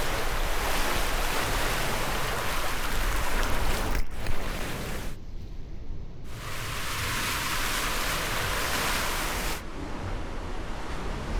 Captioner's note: water running between hulls